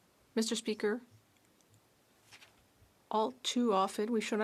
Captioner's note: speaking French